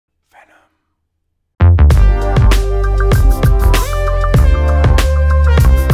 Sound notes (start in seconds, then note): 0.3 whispered